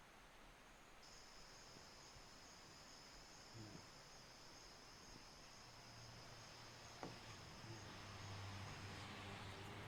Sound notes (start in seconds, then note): 3.0 insects chirping